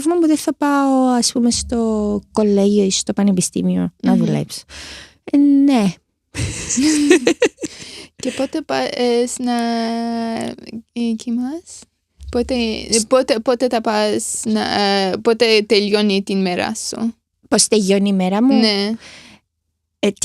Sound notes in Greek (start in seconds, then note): 6.3 γέλια